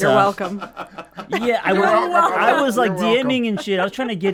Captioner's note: group laughs